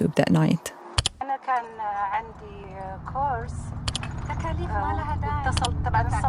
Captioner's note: speaking in foreign language